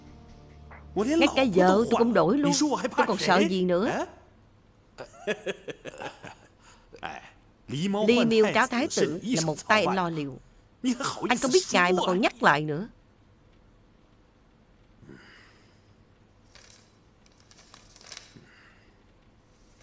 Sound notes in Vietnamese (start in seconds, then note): 5.0 Tiếng cười